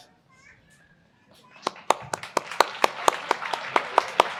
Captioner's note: applause